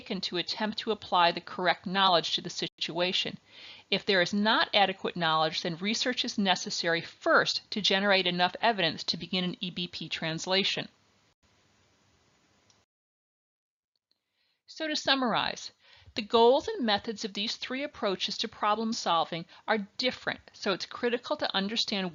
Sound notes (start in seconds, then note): 11.1 silence